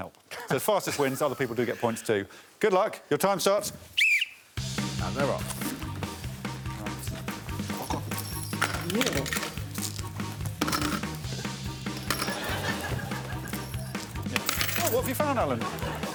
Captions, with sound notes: That's to put things in that you might find that doesn't help. Fastest wins. Other people do get points, too. -Good luck. Your time starts... -[whistle blowing] And they're off. [items clattering]